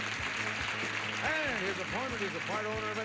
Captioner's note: audience applauding